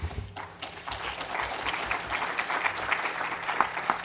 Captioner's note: applause